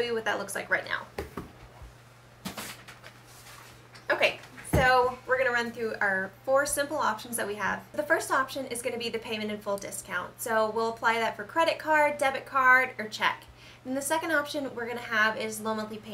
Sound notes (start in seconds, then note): 1.2 smacks table; 2.4 paper rustling